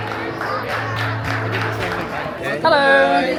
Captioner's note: crowd applauds; people chatter